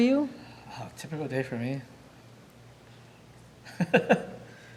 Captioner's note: laughing